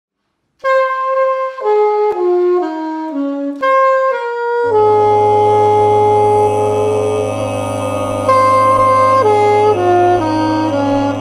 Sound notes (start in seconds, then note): 0.6 saxophone plays; 4.8 humming in harmony